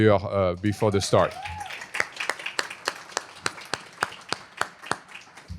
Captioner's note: applause